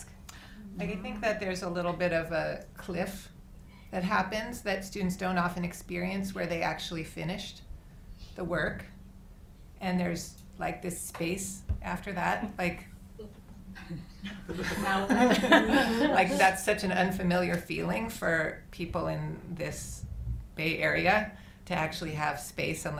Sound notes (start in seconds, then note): 13.7 giggles